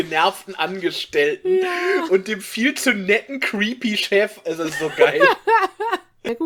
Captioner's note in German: Lachen